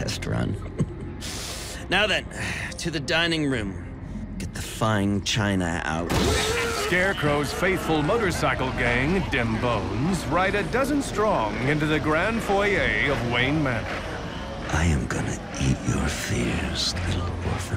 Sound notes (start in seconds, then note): 0.5 chuckles; 6.1 crash, hollering